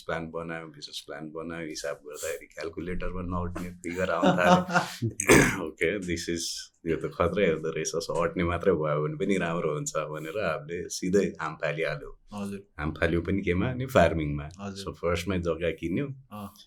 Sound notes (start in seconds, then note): 3.6 mild laughter